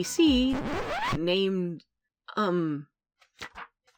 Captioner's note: record Scratch